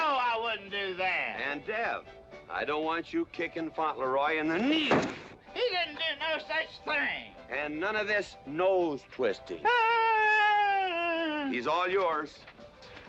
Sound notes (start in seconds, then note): 4.8 whack